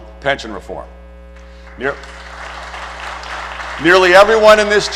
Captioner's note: applause